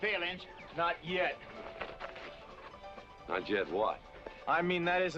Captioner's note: none